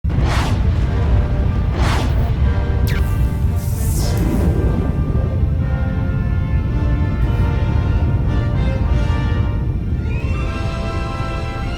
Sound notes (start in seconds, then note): 0.3 powerful music; 3.4 graphics buzzing; 6.4 powerful music continues